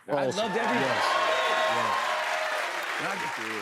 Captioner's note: cheers and applause